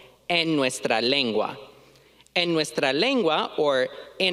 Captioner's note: speaking in foreign language